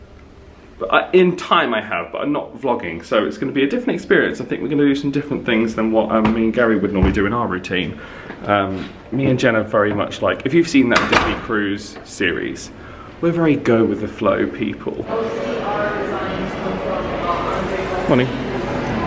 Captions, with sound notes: But in time I have, but not vlogging, so it's gonna be a different experience. I think we're gonna do some different things than what me and Gary would normally do in our routine. Me and Jen are very much like, if you've seen that Disney cruise series, we're very go with the flow people. (guests chattering) Morning.